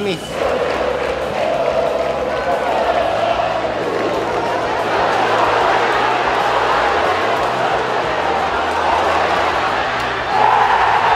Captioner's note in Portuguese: sons da torcida